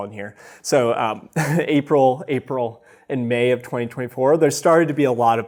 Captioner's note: chuckles